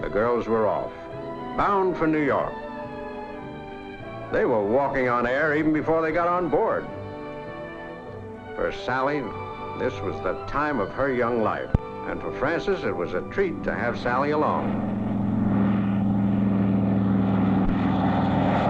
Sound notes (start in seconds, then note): 14.7 plane engine revving